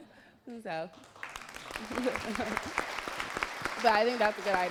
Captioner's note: applause